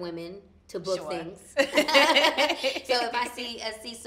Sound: both laughing

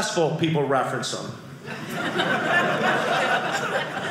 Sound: audience laughing

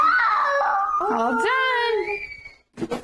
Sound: cry

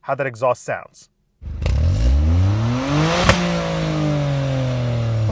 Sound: engine revving

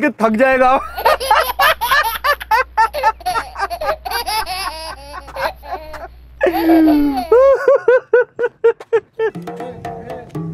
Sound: laughing

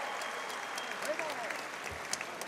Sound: audience applauding and cheering

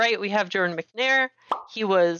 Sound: pop!

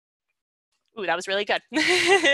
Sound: laughs

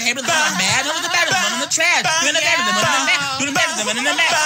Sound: vocalizing

